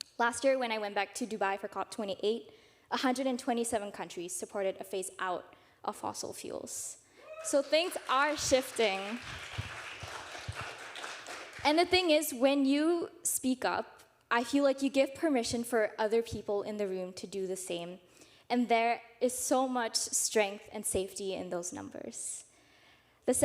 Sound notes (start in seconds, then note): 7.4 audience applauding